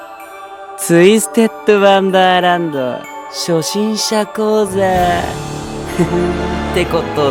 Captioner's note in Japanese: ゲーム音声